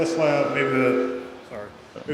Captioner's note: audio feedback noise